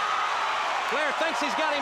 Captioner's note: crowd cheering